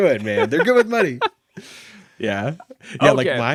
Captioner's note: laughing